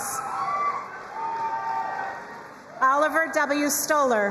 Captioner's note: crowd cheering and applauding